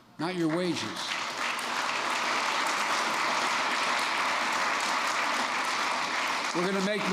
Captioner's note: applause